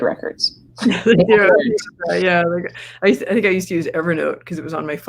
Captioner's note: laughs